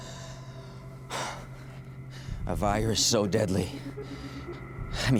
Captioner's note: exhales deeply; exhaling